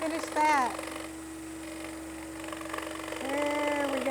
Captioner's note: sawing